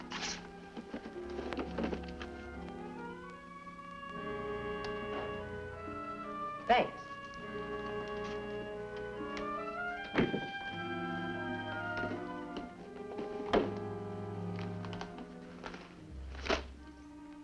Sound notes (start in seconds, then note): none